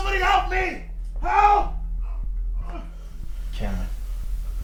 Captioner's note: grunts